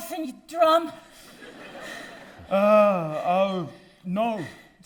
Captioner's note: audience laughing